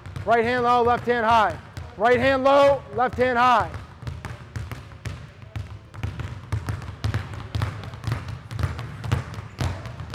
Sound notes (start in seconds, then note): 4.4 balls continue thudding